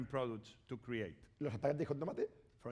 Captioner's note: speaking spanish